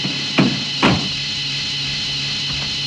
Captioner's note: car door slams